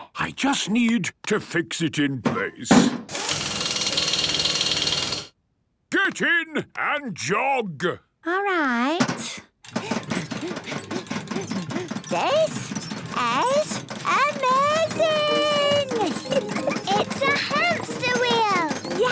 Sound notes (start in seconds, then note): 3.0 drilling; 9.8 panting